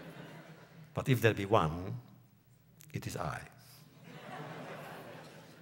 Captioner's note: laughter; laughter